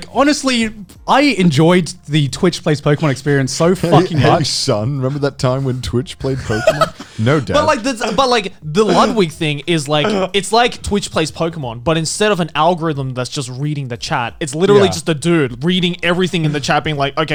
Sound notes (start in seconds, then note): 6.3 Garnt laughing